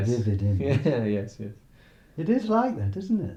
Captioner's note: laughing